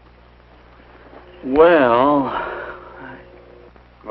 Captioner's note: sighs